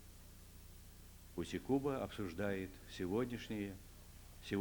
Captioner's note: non-english speech